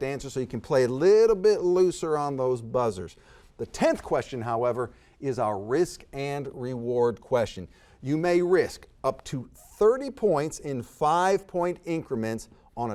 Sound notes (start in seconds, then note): none